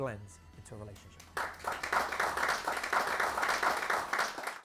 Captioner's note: applause